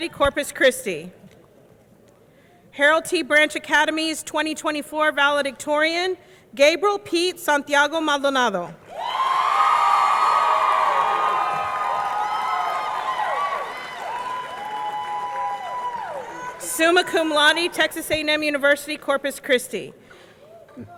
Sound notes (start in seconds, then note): 8.9 audience cheering; 9.0 audience clapping